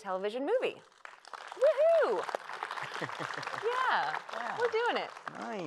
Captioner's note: applause